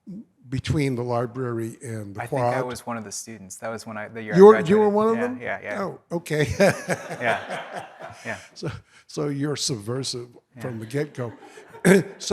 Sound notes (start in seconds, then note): 6.3 laughs